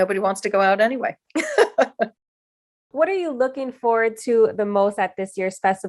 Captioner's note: laughter